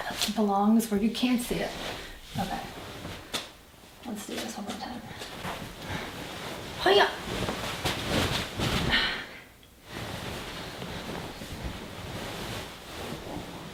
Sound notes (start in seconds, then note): 9.7 blanket ruffling